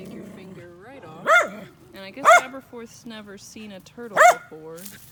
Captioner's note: bark